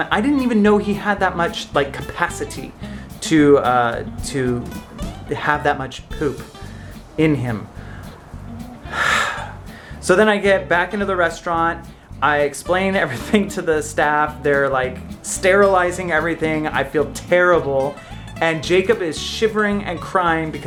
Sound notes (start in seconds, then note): 8.8 sighs